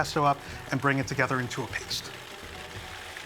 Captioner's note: processor stops